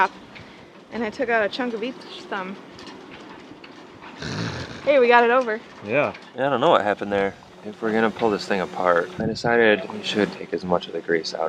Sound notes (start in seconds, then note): 4.1 snorts